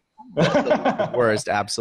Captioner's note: laughing